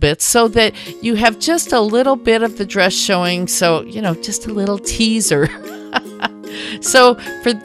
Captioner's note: laughter